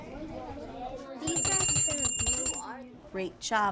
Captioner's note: bell ringing